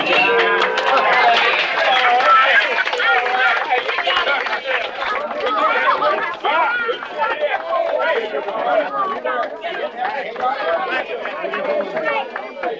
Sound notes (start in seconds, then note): 0.1 crowd applauding; 0.1 men laughing; 5.9 crowd chattering